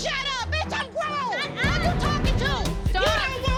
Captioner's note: arguing